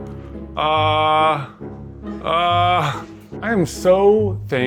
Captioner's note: groaning